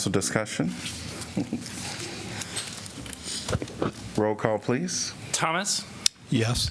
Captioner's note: laughter